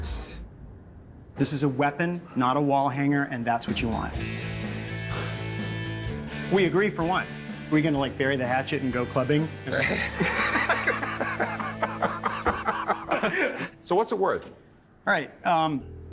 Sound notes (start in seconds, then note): 3.6 soft rock music; 9.8 laughter